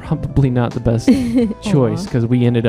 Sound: laughing

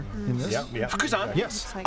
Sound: non-english speech

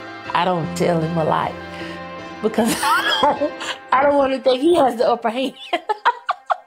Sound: laughter

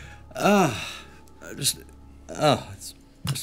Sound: sighs

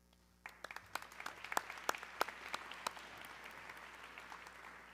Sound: audience clapping

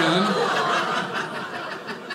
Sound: audience laughing

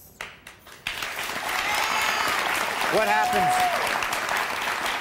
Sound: audience cheers

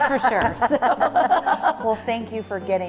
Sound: laugh

